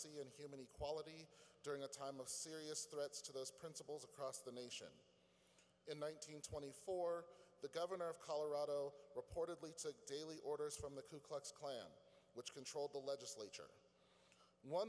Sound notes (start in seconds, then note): none